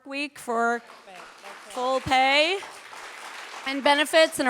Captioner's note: audience applauding